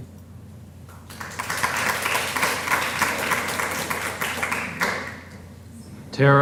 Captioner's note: applause